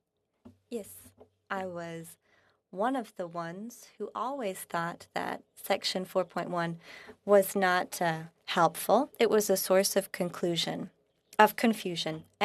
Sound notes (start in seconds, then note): 2.4 speaking French